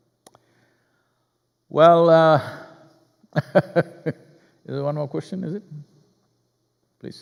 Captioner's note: laughs